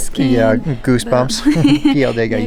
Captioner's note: laughs